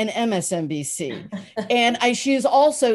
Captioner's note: Soledad laughs